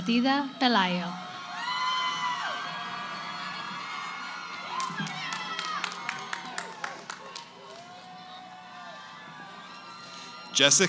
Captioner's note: cheering